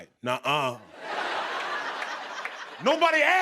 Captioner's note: laughter